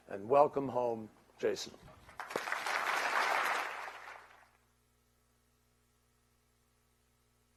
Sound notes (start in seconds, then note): 2.0 applause